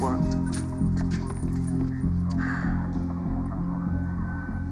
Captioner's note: sighs